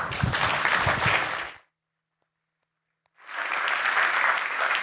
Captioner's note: applause